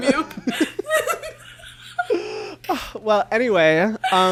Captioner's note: both laugh